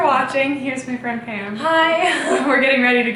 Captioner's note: laughs